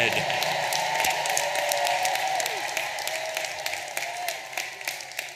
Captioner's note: audience applauding and cheering